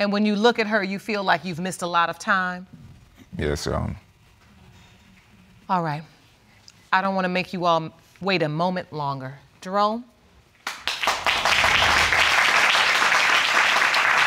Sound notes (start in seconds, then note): 10.6 audience applauding